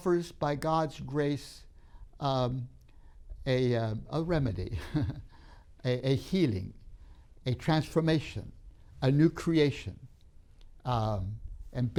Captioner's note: laughs